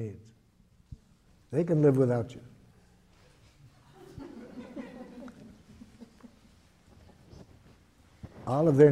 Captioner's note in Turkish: Gülüşmeler